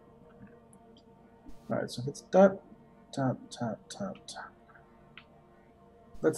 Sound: counting wordlessly

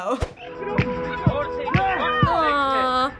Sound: onlookers chattering

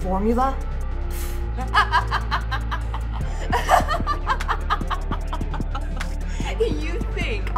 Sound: laughing

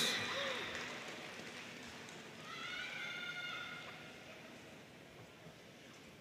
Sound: audience cheering and applauding

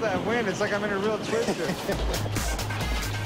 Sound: chuckles

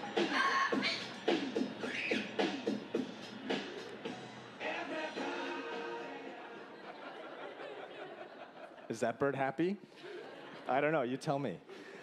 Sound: bird squawking

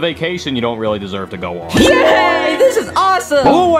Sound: casino device chimes

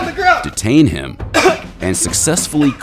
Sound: coughing

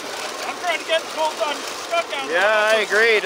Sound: murmurs

